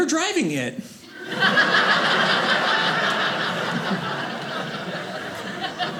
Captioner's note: audience laughing